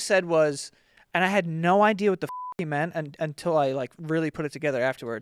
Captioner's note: beep